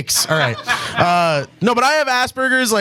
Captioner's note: audience laughs